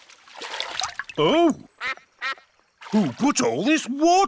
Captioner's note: quacks